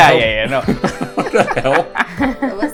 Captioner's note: laughs; laughter